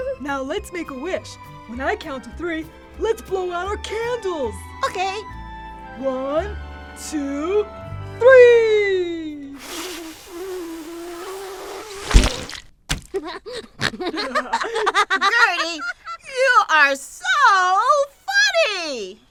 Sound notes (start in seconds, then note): 9.6 blowing sounds; 11.8 splat sound; 13.1 laughter